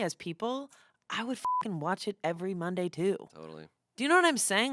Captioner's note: beep